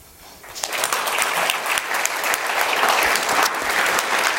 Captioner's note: applause